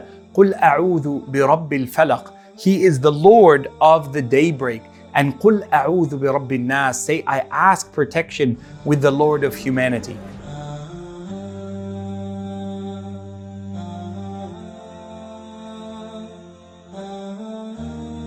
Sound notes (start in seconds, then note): 10.5 man humming solemnly